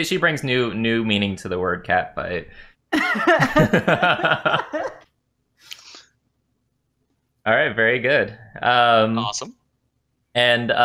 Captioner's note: laughter